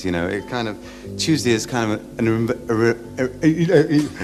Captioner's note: stutters